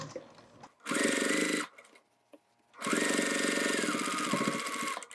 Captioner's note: machine whirring